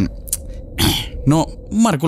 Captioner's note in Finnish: kröhöm